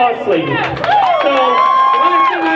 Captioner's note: crowd cheers